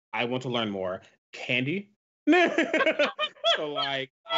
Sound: both laugh

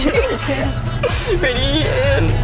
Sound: laughing

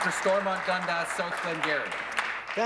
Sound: applause

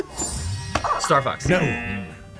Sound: buzzer; laughs; buzzer barks; buzzer

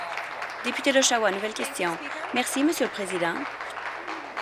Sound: applause

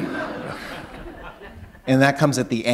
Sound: laughter

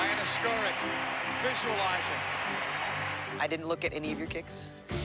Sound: tv announcer

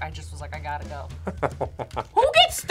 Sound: laughs

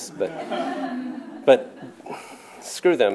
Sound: laughter

